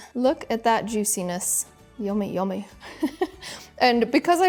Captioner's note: giggles